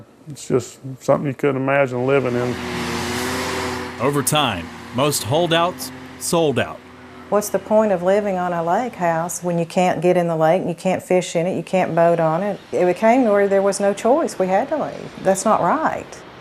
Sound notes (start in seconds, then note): 3.9 construction equipment rumbling